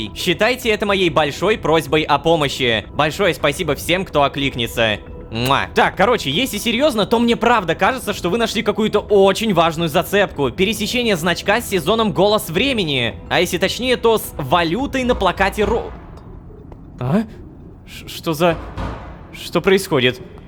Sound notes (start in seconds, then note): 5.4 sound of a kiss; 15.0 knock on the door